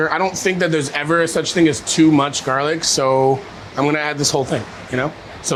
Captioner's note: none